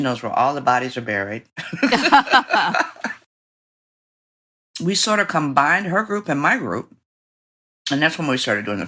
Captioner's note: laughter